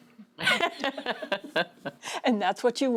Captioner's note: laugh